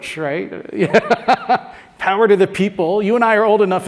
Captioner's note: laugh